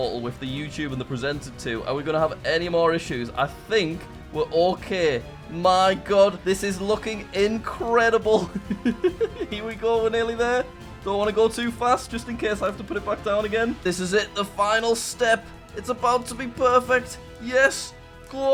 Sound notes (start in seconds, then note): 8.4 laughs